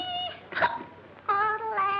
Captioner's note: yodeling; hiccup; yodeling